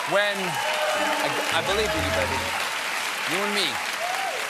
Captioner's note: applause